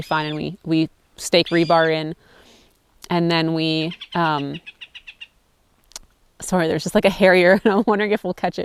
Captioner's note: bird sound